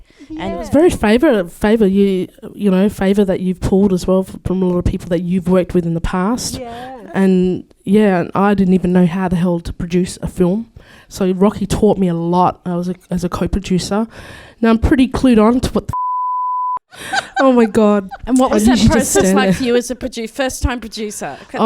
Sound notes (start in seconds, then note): 15.9 beep